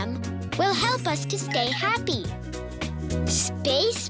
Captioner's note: tinkling